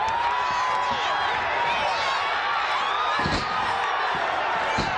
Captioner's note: audience cheering